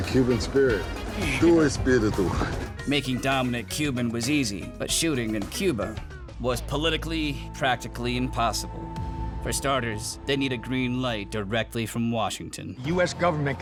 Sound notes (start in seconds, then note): 2.2 dom speaking spanish